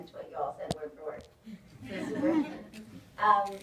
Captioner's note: audience laughs